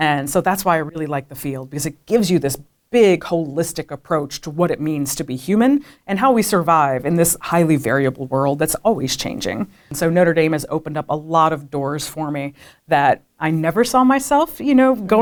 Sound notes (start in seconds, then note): none